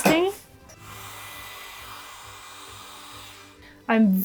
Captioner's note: blower whirring